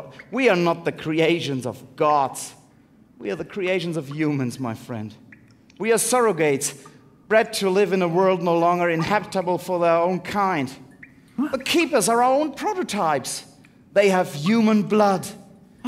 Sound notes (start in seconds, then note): none